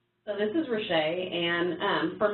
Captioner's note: voiceover